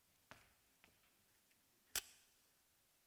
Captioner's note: match strikes